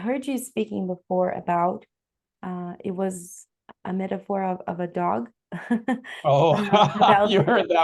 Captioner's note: risos